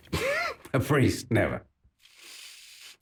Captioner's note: laughs